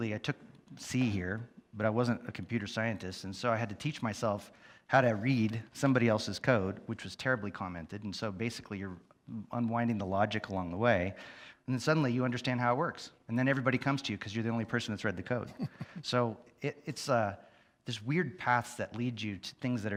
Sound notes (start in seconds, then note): 15.4 chuckles softly